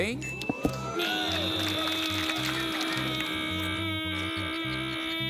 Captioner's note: ding!; imitates motor